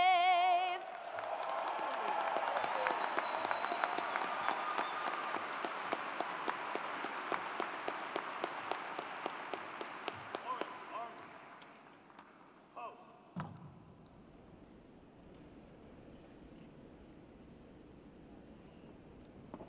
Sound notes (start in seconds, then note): 4.5 cheers and Applause